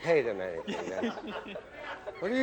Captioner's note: laughter